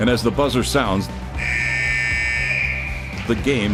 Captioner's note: buzzer sounds off